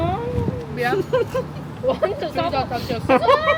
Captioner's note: is laughing too hard to speak